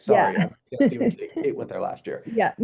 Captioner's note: speaks faintly